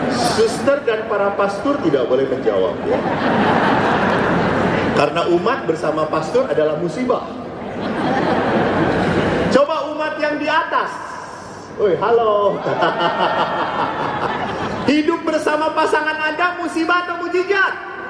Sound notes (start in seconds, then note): 7.6 laughing audiences